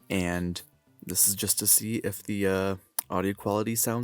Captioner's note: lip smack